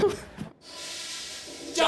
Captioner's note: toilet flushes